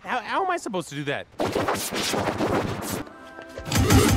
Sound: distorted explanation

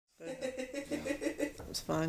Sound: laughing

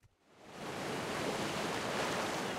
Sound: waterfall sound

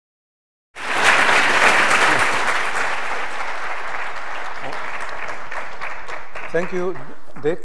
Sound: applause

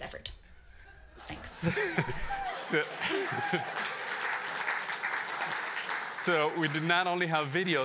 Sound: applause

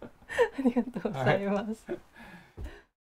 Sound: laugh

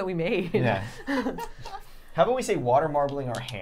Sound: laughing

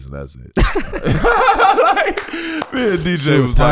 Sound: Miles and Iman laughing

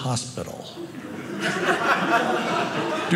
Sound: audience laughing

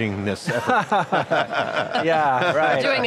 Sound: laughing

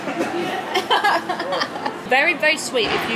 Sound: laughing

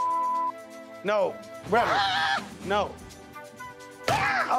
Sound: screaming

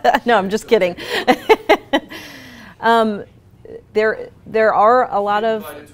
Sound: laughs

